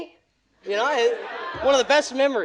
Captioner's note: audience laughing